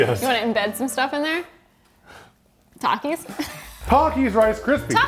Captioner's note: chuckles